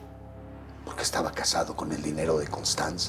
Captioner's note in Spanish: none